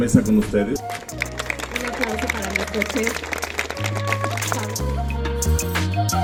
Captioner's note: applause